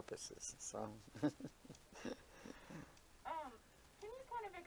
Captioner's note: both laughing